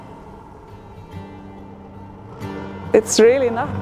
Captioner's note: boat engine whirring